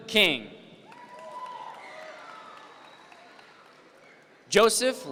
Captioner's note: audience members cheer